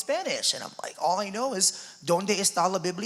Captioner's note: speaking Spanish